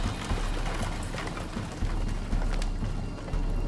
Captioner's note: galloping continues